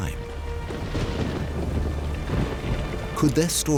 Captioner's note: thunder crashing